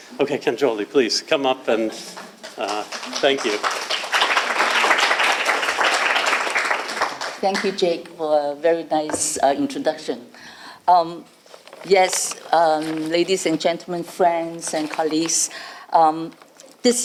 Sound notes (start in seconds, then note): 3.9 applause